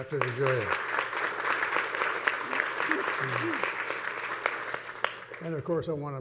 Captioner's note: panelists and audience clapping